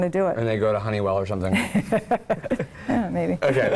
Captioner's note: laugh